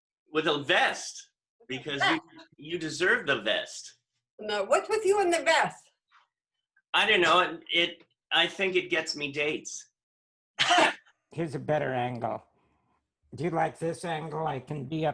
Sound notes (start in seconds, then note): 10.3 laughter